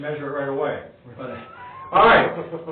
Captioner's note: chuckling